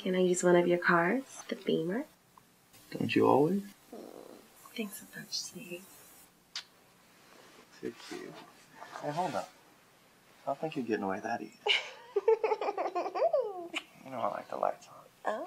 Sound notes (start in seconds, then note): 11.6 giggles